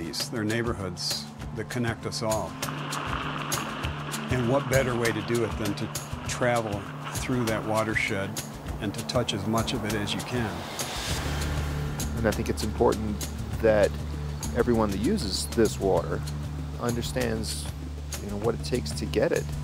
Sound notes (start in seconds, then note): 2.6 bicycle on gravel